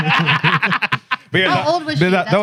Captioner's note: laughing